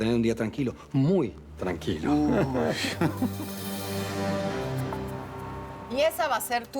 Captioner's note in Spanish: Ríe